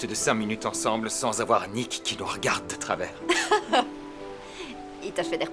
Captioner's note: laughing